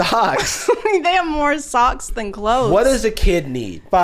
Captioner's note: laughing